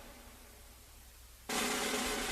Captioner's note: whispering